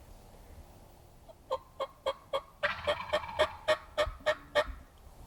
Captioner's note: turkey calling